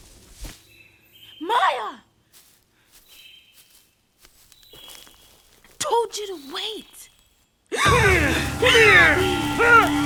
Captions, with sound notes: Maya! I told you to wait. (gasping) (suspenseful music) - Come here!